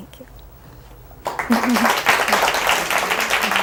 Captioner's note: applause